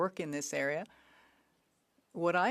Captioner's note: speaking French